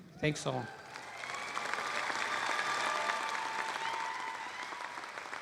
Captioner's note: applause